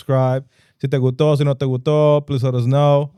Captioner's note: speaking In Foreign Language